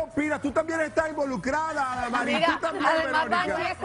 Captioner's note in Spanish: risas